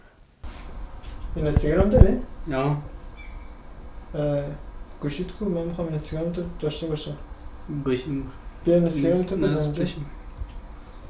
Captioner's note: speaks in a different language